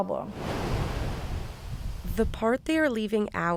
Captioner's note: water rambling